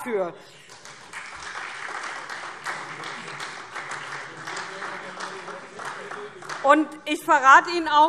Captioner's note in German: Beifall SPD